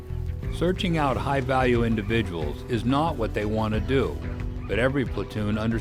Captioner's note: voiceover